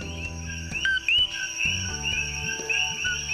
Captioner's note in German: Lautes Pfeifen